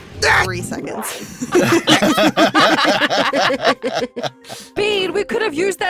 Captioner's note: laughs; GRATCH yelps